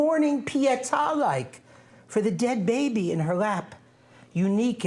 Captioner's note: non-english speech